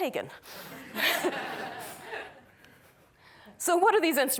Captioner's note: chuckling